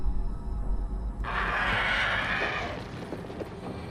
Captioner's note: roaring